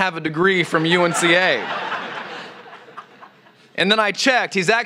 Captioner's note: laughter